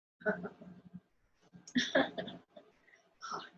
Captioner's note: laughing